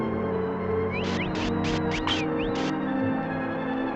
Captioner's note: whistling